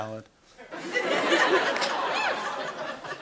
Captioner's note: laughter